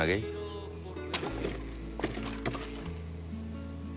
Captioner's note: logs clattering